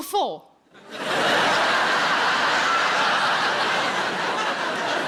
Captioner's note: audience laughs